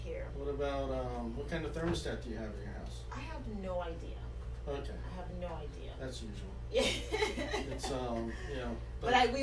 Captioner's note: laughs